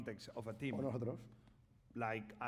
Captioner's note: speaking spanish